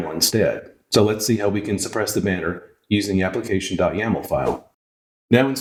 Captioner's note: woosh